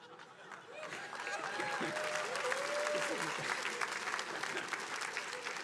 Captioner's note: attendees cheering and applauding